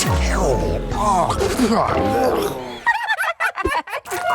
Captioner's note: Shawn gags and spits; Rhubarb and Floret giggles